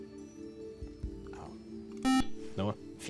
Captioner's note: beep